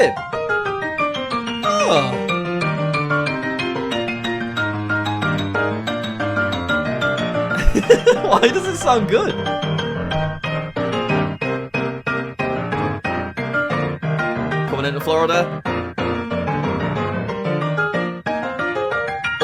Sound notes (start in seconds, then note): 0.2 upbeat piano music; 7.5 chuckles